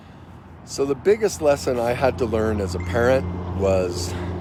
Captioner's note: phone dings